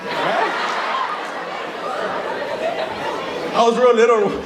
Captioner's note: audience laughing